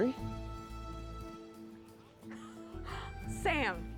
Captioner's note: laughing; laughs